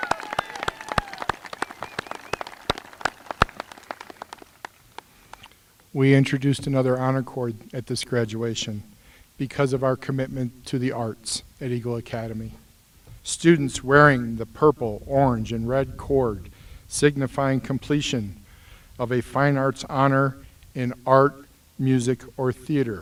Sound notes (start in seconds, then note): 3.9 applause